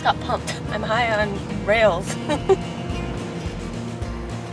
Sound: laughs

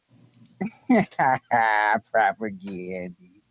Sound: laughs

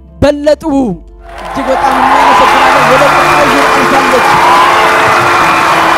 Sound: scream and applause

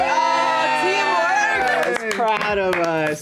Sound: all cheer

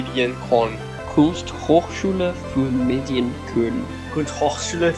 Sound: speaks German

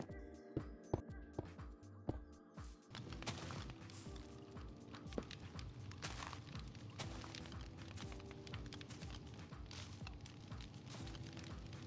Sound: various block placing sounds

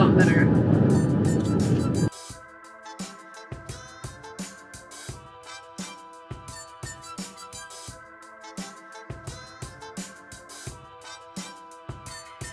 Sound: wind blows

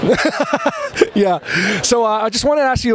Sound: laughs

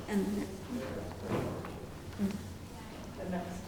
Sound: whispering

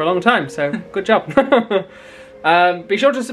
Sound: chuckling

